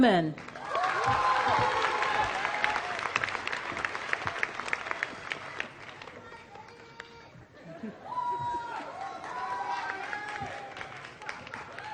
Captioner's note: applause